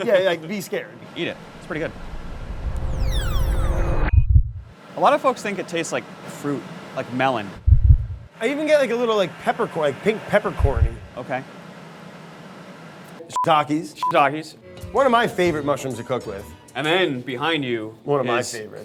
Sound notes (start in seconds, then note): 4.0 whooshing, thumping; 8.0 thumping